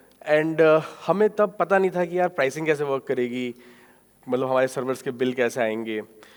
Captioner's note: speaking in foreign language